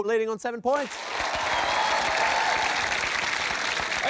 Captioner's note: cheering, applause